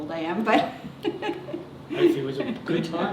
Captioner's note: laughter